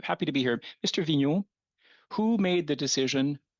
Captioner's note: speaking French